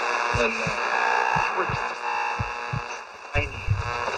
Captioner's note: radio being tuned